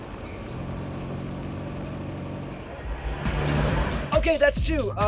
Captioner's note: car revving